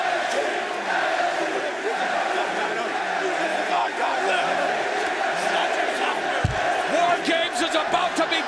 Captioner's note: crowd cheering